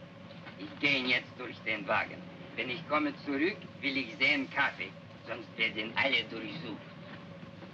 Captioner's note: speaking in Russian